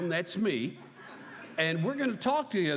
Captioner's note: laughter